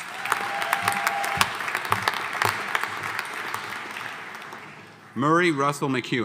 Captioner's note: audience cheering; audience applauding